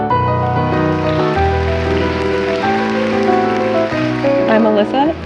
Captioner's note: audience applauding